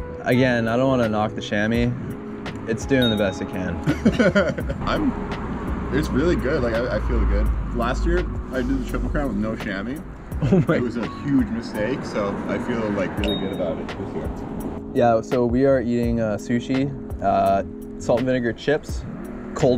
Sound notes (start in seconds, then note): 3.8 laughs softly